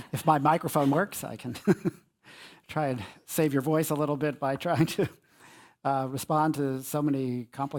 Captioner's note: laugh